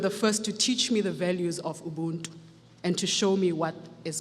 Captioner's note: speaks foreign language